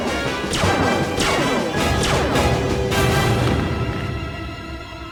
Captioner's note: dramatic music; weapon blasting; music intensifies